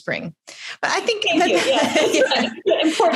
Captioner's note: laughter